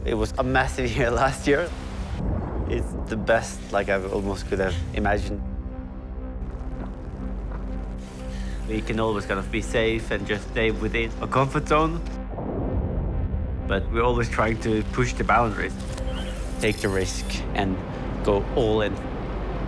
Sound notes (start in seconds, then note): 12.2 splash